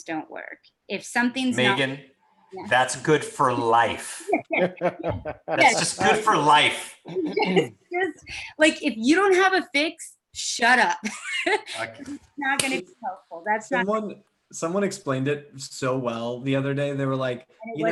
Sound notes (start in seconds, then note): 4.2 laughs; 11.0 giggles